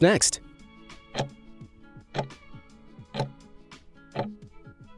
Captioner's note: timer ticking